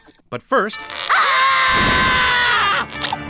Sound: screams

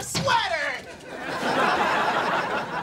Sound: laughing

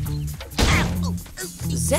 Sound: thudding, groaning

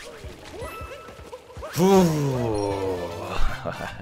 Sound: creepily laughs

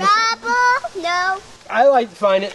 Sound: voiceover

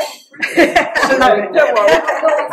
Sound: laughter

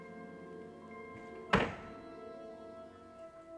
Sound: door slams shut

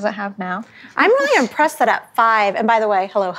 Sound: ladies chuckle

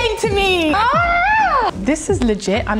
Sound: screaming

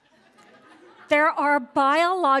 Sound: laughter

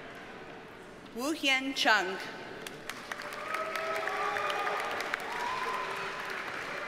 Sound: audience cheers and applauds

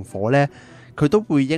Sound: deep breathe

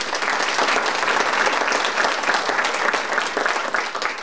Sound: audience applauding

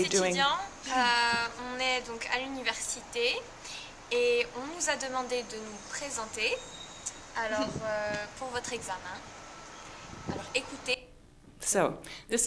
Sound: speaking French

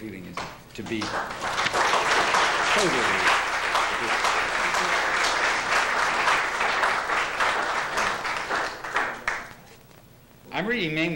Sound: applause

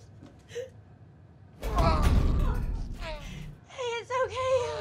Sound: groaning

